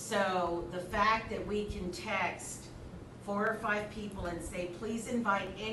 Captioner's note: none